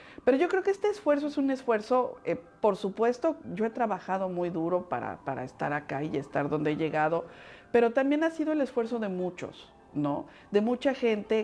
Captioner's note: speaking Spanish